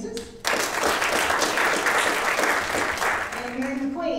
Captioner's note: audience applauding